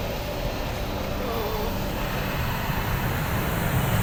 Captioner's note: moaning